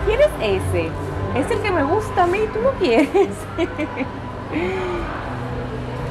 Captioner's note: laughter